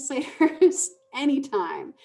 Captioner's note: laughing